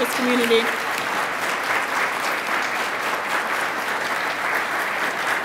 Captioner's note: attendees applauding